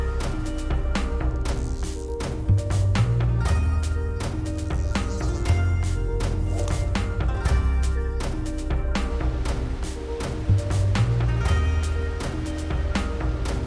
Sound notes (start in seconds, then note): 1.5 reel ratchet clicking